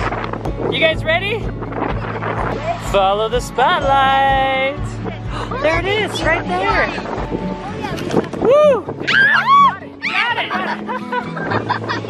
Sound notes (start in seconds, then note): 9.4 yelling